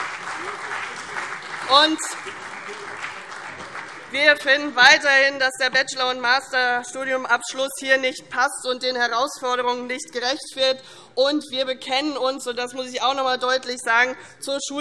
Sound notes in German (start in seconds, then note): 0.0 Beifall CDU und BÜNDNIS 90/DIE GRÜNEN